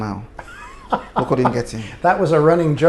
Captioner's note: laughter